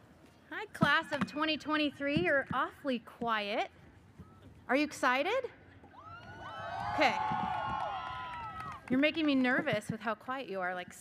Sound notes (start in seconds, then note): 6.0 audience cheers